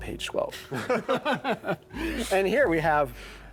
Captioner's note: laughter